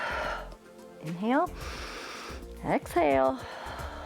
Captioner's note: exhales; inhales